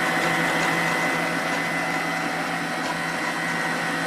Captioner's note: mixer whirs